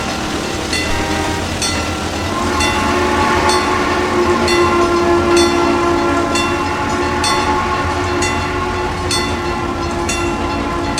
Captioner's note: CNJ Blue Comet Pacific whistle, wig wag ringing